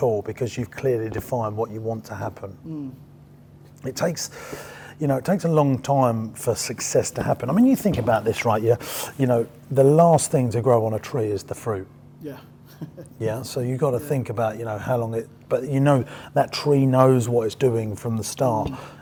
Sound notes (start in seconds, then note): 12.7 chuckles